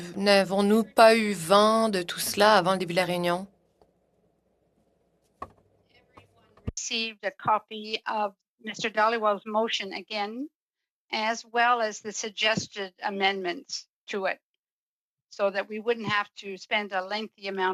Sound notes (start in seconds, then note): 5.2 speaking French